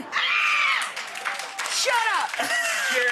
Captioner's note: audience applause